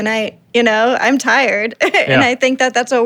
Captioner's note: chuckles